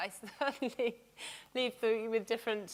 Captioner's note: laughs